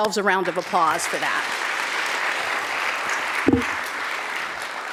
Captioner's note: clapping